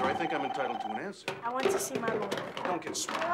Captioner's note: phone ringing